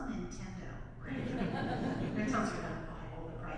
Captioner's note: audience laughs